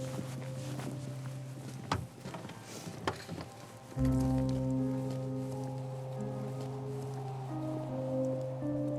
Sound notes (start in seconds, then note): 0.0 footsteps walking away